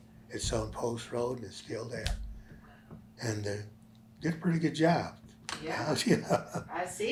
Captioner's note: laughs